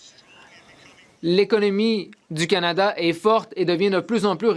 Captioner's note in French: voix de l'interprète